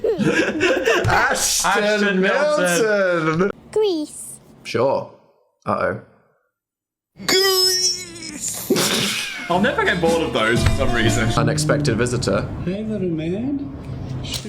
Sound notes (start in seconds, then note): 7.1 struggling; 8.2 Dan and Phil laugh